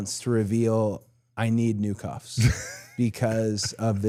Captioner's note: Dallas laughing